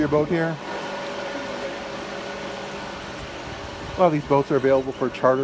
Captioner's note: boat motor whirring